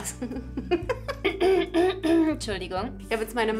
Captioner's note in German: räuspern